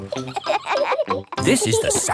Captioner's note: kids laughing